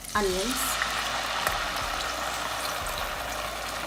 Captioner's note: pan sizzles